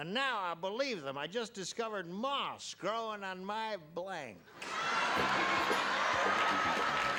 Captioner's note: laughter